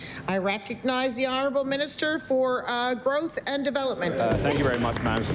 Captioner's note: applause